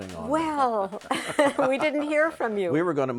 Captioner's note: laughs